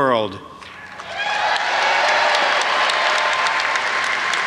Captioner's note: audience applauds